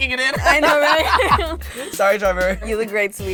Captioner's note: laughs